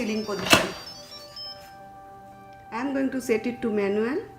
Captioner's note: beeping